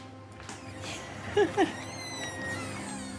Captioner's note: door creaking; woman chuckles